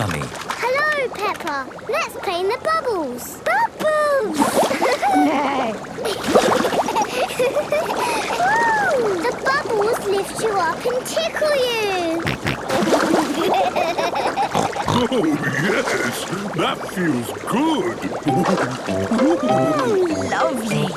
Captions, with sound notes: - Hello, Peppa! Let's play in the bubbles! - Bubbles! (giggling, neighing) (giggling) Woo! - The bubbles lift you up and tickle you! (snorting, giggling) - Oh, yes! That feels good! Ooh! - Ooh, lovely!